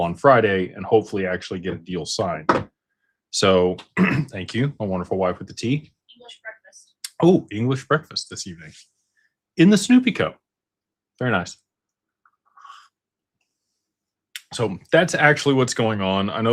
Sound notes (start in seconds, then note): 3.9 clears throat